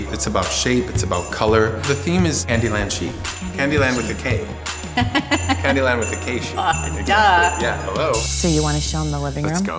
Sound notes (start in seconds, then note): 4.9 Kris laughs